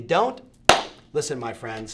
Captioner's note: claps loudly